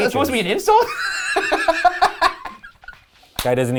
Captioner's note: laughing